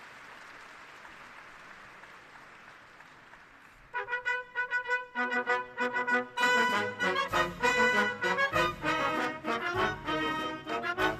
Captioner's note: applause